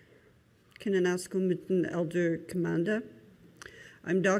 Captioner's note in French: Parlant Anishinaabe